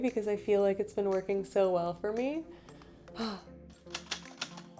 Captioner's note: sigh